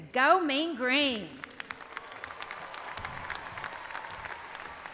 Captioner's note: crowd applauding